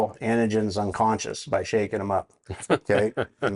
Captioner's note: laughing